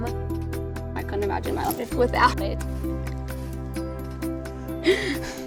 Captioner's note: laughs